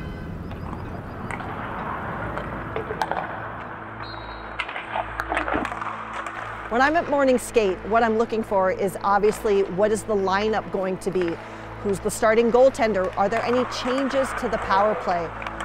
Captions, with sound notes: (whistle blowing) - When I'm at Morning Skate, what I'm looking for is obviously what is the lineup going to be? Who's the starting goaltender? Are there any changes to the power play?